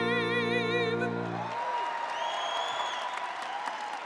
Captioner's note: cheers